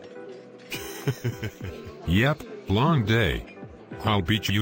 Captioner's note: chuckling